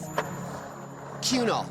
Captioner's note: skateboard wheels roaring